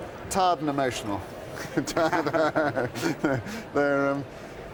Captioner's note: both laugh